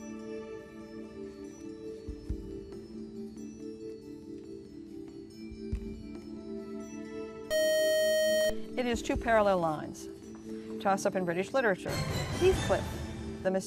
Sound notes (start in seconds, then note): 7.5 buzzer